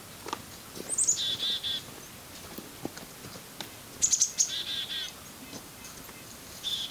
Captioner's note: forest sounds, bird calls